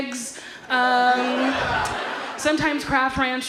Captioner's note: audience laughs